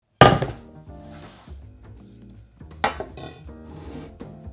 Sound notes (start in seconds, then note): 1.0 board sliding